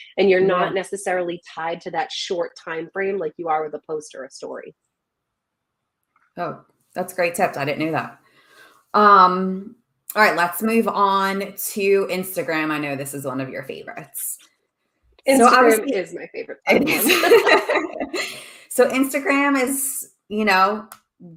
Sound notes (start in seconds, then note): 16.7 laughing